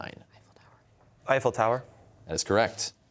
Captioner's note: whispering